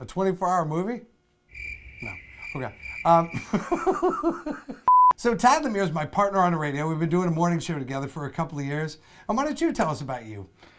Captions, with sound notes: A 24 hour movie? (crickets chirp) Okay. (laughs) So Tad Lemire's my partner on the radio, we've been doing a morning show together for a couple of years. And why don't you tell us about you?